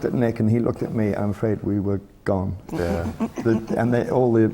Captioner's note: laughter from the panel